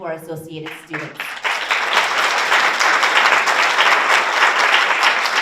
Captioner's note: audience applauds